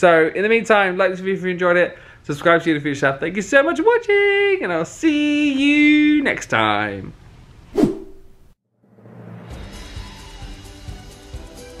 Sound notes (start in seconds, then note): 7.7 screen wipe whooshes; 10.5 joyful music